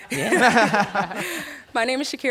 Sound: panelists laugh

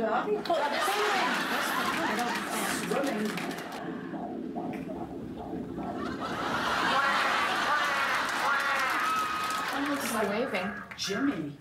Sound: laughter

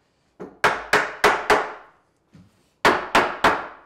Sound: hammering wood

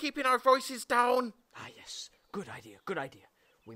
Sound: whispers

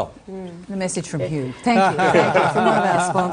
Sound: laughter

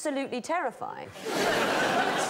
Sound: laughter

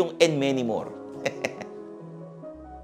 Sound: laughs

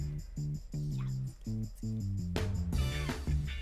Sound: whispers

